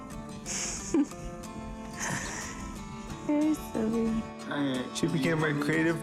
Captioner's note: chuckling